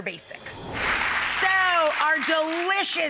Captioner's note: audience clapping